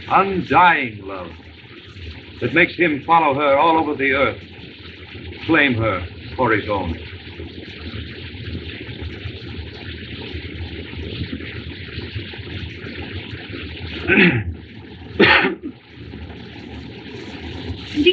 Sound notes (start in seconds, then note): 10.2 clears Throat, Coughs